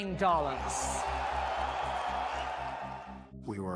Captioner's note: loud cheering